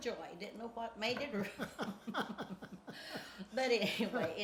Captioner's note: laughs